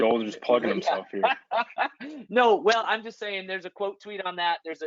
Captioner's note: laughing